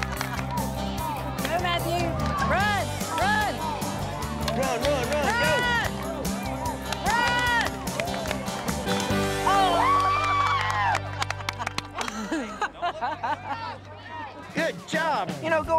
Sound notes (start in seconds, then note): 5.6 cheering, clapping; 9.5 laughter